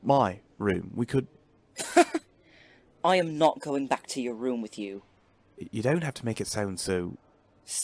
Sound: Remus laughs

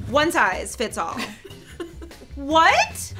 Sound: laughing

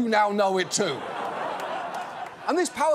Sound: audience laughs

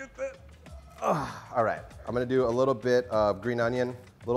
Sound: groans

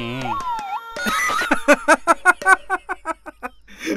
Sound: laughs

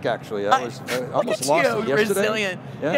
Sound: laughs

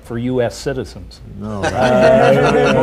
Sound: laughter

